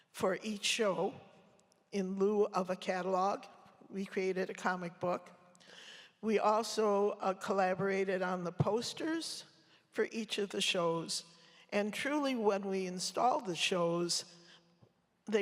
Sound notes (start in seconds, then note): none